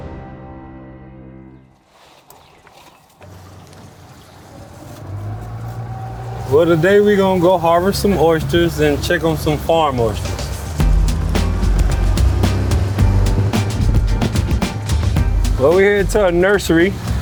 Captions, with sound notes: (engine humming) - Well today we're gonna go harvest some oysters, and check on some farm oysters. (upbeat music) Well, we're here at the nursery.